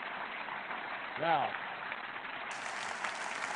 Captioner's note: applause